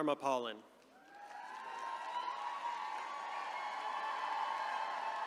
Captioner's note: attendees cheering